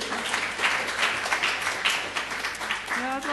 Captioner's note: applause